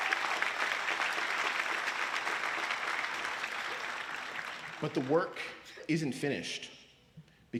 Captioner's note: applause